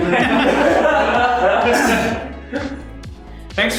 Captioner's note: laughter